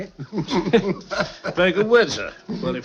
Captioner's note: laughing